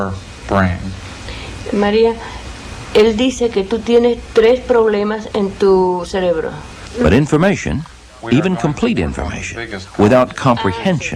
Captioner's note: woman speaking Spanish